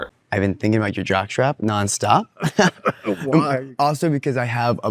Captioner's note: laughs